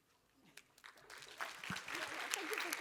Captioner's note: applause